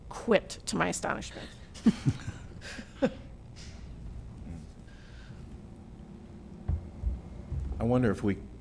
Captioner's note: laughter